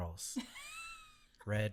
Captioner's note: laughs